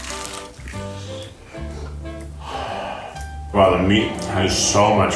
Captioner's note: crunching